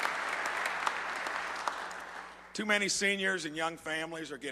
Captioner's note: applause